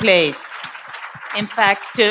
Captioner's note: audience applauds